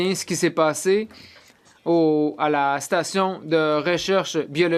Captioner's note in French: voix de l'interprète